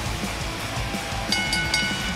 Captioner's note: bell ringing